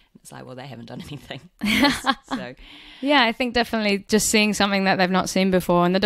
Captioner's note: laughs